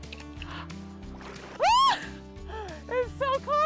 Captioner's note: yelling